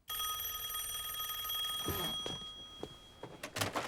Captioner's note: rings